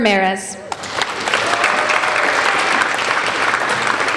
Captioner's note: applauding